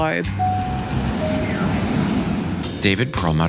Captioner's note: airplane sounds